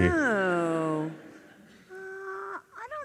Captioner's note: audience laughs